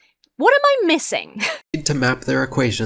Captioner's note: huffs